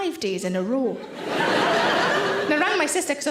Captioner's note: audience laughing